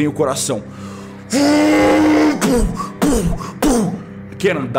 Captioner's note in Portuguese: <i>barulho de trem</i><i>pu pu pu</i>